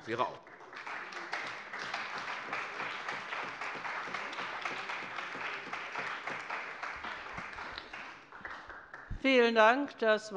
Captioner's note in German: Beifall bei der CDU und dem BÜNDNIS 90/DIE GRÜNEN